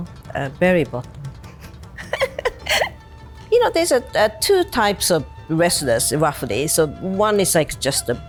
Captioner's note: laughs